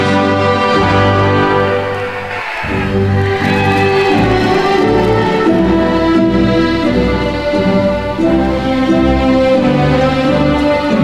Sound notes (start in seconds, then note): 1.9 attendees cheering; 3.3 ceremonious music